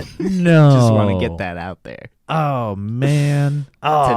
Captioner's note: chuckles